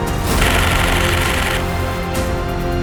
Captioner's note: shutter noises